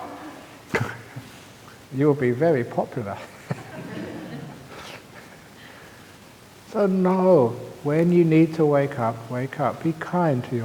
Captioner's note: laughs; laughter